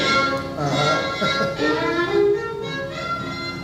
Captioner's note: chuckles